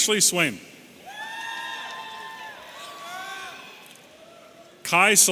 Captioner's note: audience cheering